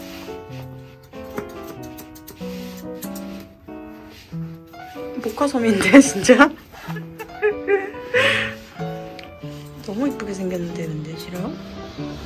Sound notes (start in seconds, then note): 6.7 laughing